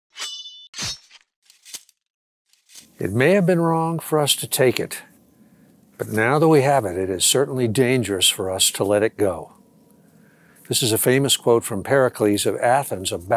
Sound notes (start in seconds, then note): 0.1 sword slashing